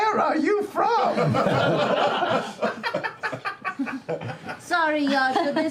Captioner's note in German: Gelächter